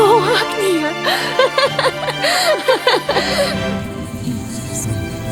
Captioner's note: both laugh